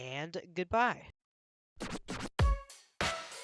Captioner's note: record scratches; upbeat music playing